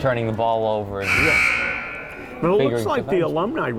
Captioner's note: buzzer buzzing